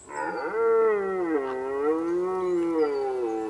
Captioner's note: stag roars